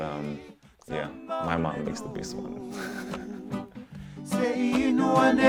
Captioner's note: chuckles